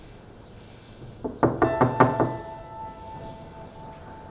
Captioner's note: door knocking